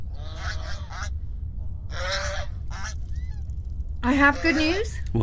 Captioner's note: swans squawking